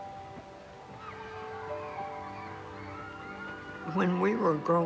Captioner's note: children laughing